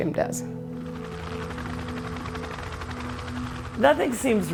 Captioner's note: rotating helicopter blades